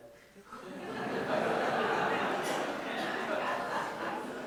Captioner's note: audience laughs